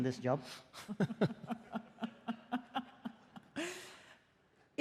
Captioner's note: laughter